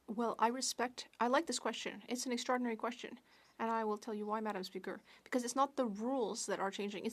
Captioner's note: speaking French